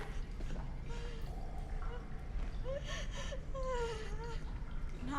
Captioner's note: Nadia cries